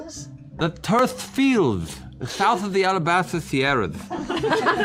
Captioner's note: slurred